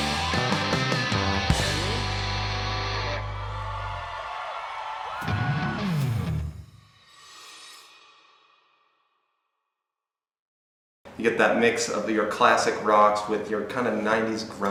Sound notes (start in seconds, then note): 3.5 crowd Cheers